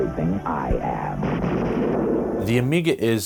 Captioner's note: thunder